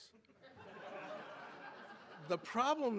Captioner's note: audience laughing